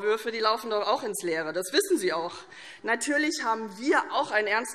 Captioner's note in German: none